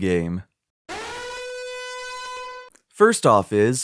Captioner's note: alarm siren